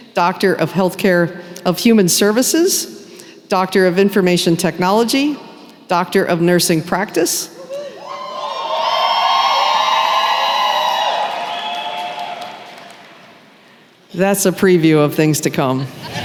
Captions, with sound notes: Doctor of Human Services, Doctor of Information Technology, Doctor of Nursing Practice… [cheering] That’s a preview of things to come.